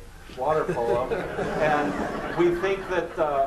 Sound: laughter

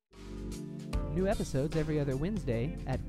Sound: slow paced music; voiceover

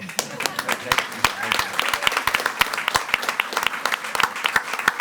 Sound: audience applauding

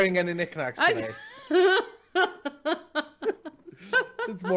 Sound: laughing

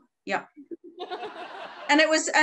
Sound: audience laughing

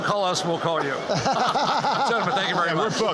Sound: laughter

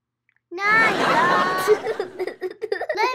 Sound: audience laughs; giggles

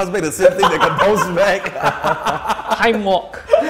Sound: players laughing

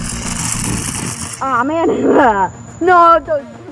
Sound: wheels scraping; laughs

